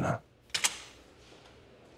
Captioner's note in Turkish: Kapı açıldı